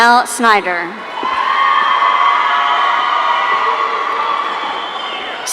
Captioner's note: audience cheering